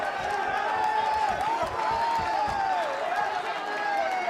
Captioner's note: cheering